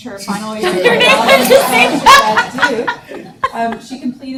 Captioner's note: audience laughs